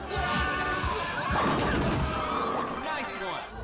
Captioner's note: bowling pin sound effect